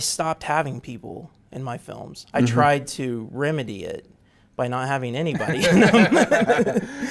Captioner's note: both laugh